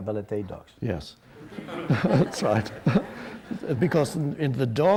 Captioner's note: audience laughs